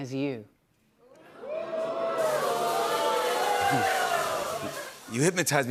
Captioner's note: audience oohs